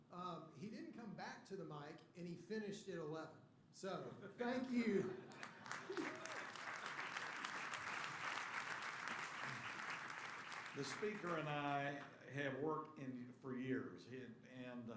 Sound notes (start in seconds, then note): 5.2 applause